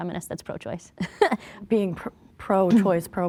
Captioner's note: chuckling